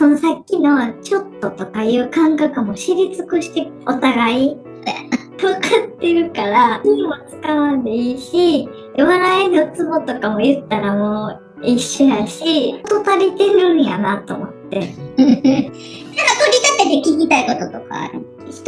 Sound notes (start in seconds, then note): 5.3 laughs; 14.9 laughs